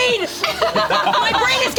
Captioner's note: group laughs